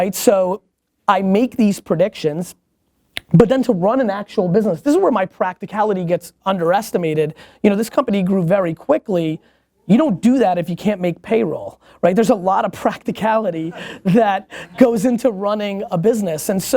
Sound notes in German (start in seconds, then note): 13.6 Lachen